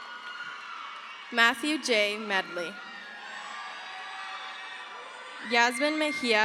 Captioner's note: crowd cheers